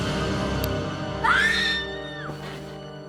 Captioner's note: scream